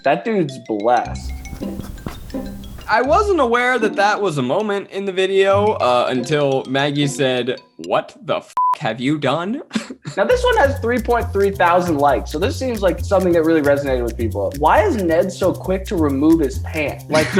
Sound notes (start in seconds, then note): 8.5 beep